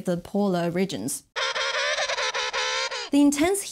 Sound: pinguins roaring

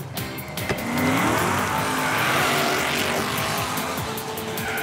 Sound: engine revs

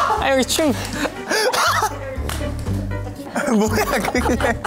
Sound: laughing

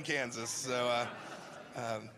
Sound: laughter

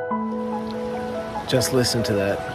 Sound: sound of flowing river

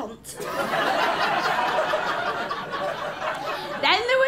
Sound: laughter

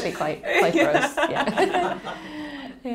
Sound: laughing

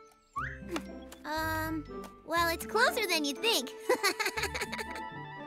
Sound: chuckles

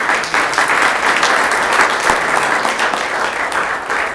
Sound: applause

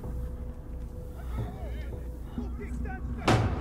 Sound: voices in distance

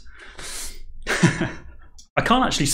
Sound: laughing

